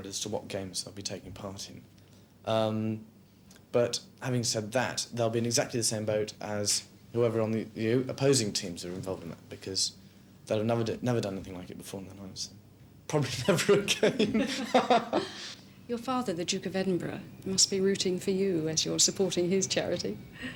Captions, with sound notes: as to what games they'll be taking part in, but having said that, they'll be in exactly the same boat as whoever on the opposing teams are involved in that, because they'll have never done anything like it before in their lives, I probably never again. (laughs) - Your father, the Duke of Edinburgh must be rooting for you as you are supporting his charity?